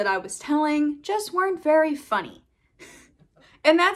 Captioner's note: giggles